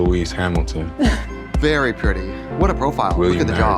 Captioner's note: laughing